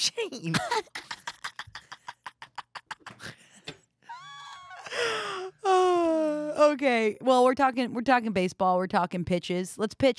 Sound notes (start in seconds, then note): 0.5 both laughing